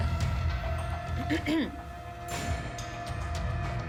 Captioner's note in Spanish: carraspea